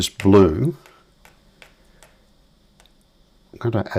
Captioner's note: silence